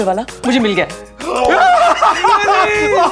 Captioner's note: Gasps